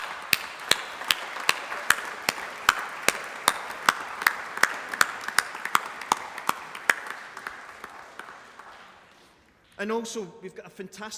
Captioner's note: applause